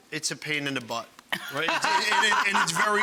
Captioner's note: laughing